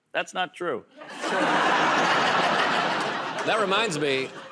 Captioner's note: laughter